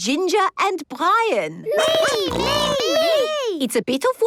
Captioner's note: snorting